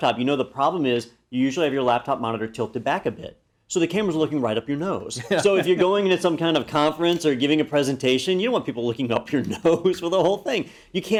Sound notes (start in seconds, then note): 5.2 laugh